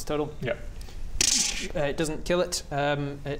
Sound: tszrzrzzz

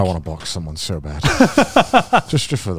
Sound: laughs

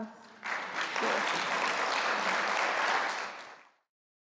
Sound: applause

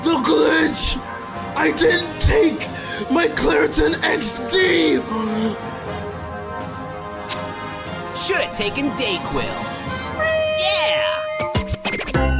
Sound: heavy wheezing

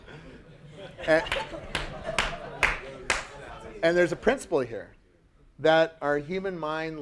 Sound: applause

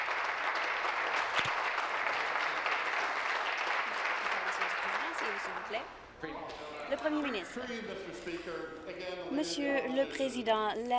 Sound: applause

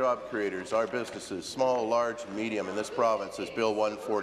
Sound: applause

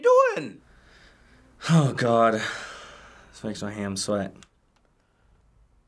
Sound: sighs

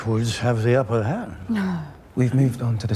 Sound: Alicent wanting to die noises

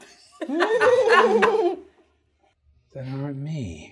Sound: all chuckling

